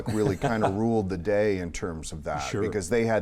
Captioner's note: laughs